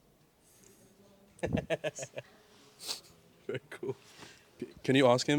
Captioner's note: laughs